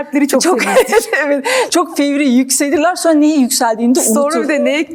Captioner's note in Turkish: kahkaha